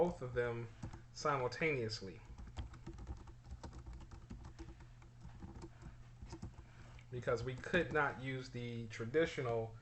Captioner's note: typing sounds